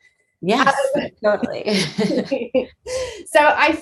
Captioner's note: both laughing